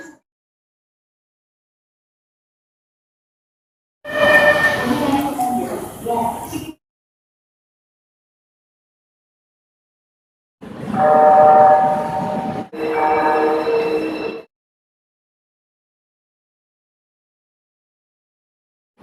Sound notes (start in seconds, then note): 10.9 electric Horn